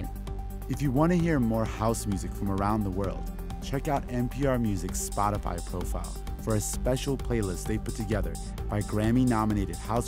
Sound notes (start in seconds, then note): none